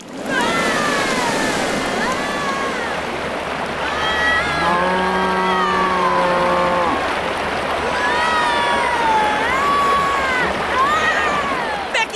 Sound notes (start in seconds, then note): 0.1 both screaming; 0.1 rushing water; 4.4 cow moos; 7.8 screaming in distress